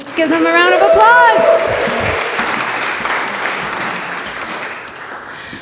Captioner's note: audience applause